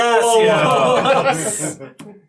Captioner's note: all laugh